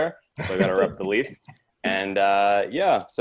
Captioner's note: laughs